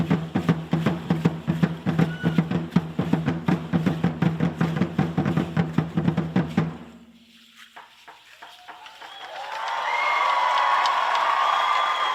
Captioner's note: Aplausos